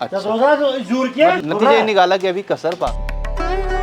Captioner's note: kashmiri Language